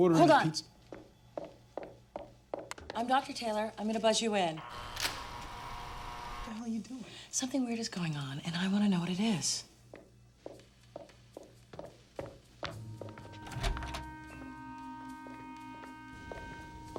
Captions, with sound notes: - Hold on! I'm Dr. Taylor. I'm gonna buzz you in. (door buzzes) - What the hell are you doing? - Something weird is going on, and I want to know what it is. (suspenseful music)